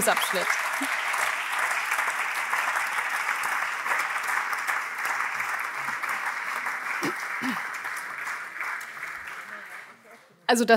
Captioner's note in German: Allgemeiner Beifall